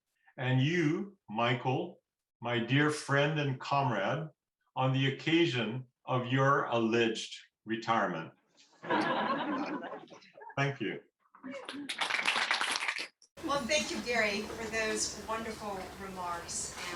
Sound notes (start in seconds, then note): 8.8 laughter; 11.6 applause